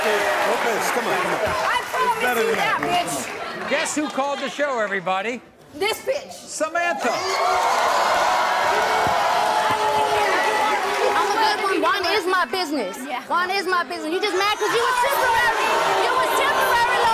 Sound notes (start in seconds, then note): 7.0 crowd jeers